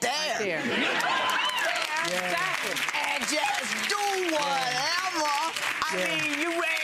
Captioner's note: audience laughs; audience applauds